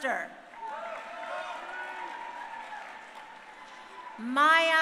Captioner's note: crowd cheering